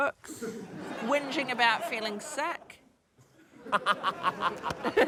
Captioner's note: laughter